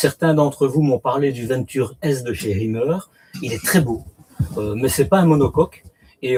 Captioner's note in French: raclement de gorge